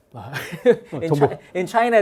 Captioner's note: chuckling